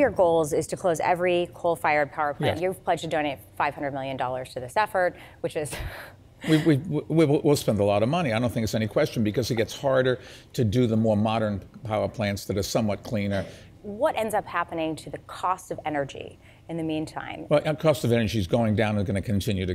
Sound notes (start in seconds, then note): 6.5 chuckles